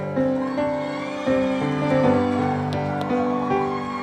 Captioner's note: audience cheering